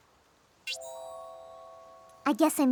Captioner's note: tink!